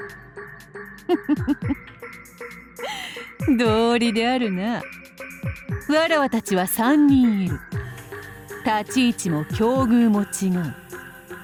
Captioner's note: cackle